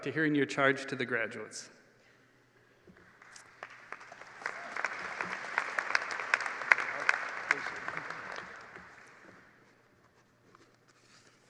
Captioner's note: applause